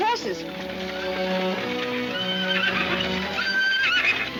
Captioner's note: horses whinnying